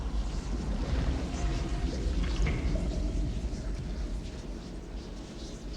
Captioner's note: whispering continues